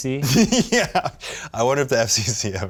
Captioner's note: laughing